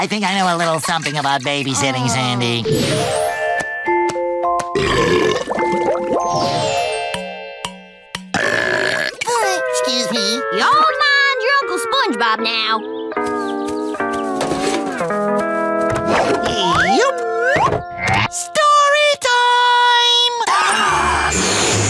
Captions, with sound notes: a little something about babysitting, Sandy. [lullaby music playing] [belching] [belching] Excuse me. Y'all mind your Uncle SpongeBob now. Ee-upp. Story time!